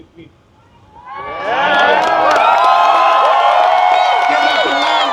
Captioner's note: applause